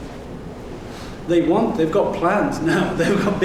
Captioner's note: laughing